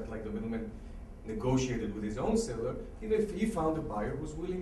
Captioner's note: none